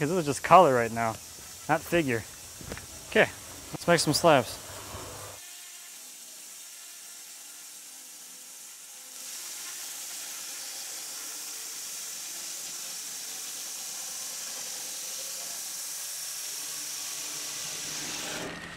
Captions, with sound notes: because it was just color right now. Not figure. Okay, let's make some slabs. (power saw rattling)